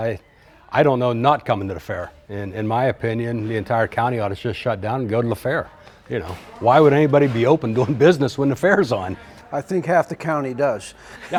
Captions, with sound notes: I don't know not coming to the fair. In my opinion, the entire county ought just shut down and go to the fair. Why would anybody be open doing business when the fair's on? (laughs) - I think half the county does.